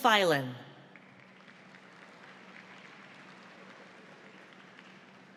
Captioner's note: audience applauds